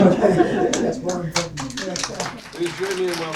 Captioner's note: applause